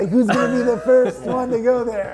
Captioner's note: chuckles